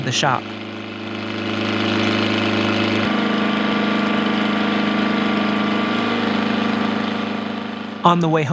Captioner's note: machinery running